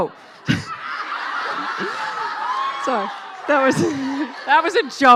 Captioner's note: laughing